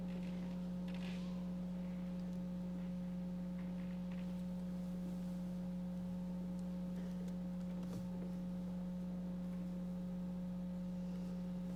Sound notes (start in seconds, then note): none